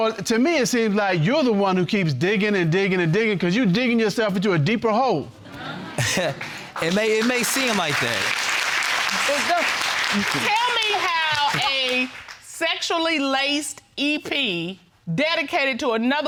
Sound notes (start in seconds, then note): 5.4 chuckles; 9.3 audience clapping